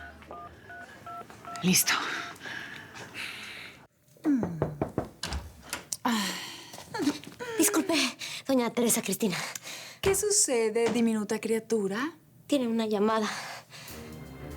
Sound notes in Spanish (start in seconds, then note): 0.0 Sonido al marcar; 4.4 Toques en la puerta